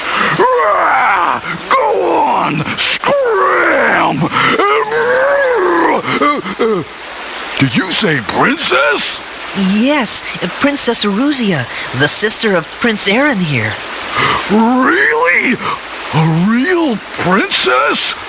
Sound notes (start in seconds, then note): 0.1 roar; 4.9 grumbling noises